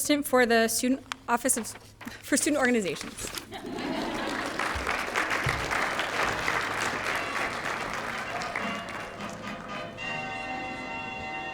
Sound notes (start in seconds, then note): 3.4 laughter; 3.6 applause